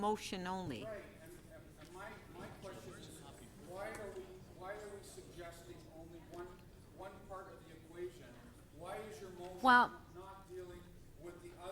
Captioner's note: speaker off mic